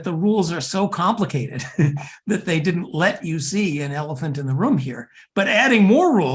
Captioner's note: laugh